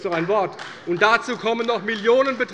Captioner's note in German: Beifall bei Abgeordneten der CDU